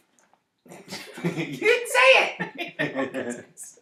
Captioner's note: laughs